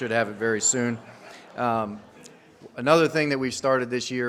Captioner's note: audience laughs